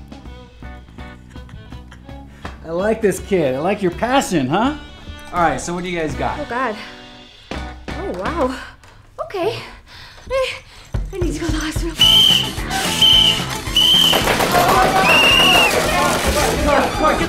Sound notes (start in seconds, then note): 12.0 whistling; 13.8 gunshots